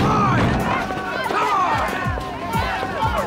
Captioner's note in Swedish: Locos skriker